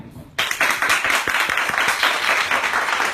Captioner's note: applause